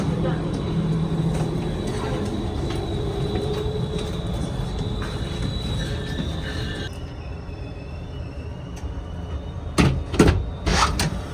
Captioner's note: trams